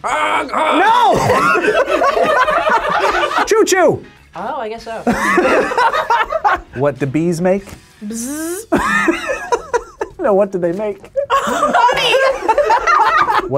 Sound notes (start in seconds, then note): 1.0 both laugh; 5.0 both laugh; 8.6 laughs